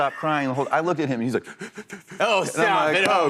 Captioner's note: sobbing